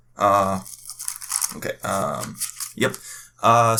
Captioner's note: papers shuffle, confusion in background